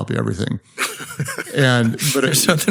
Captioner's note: laughing